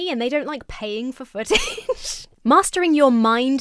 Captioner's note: laughs